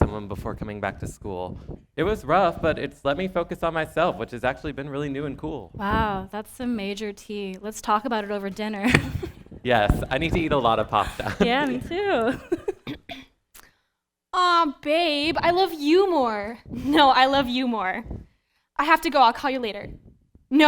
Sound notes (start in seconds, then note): 13.5 chuckles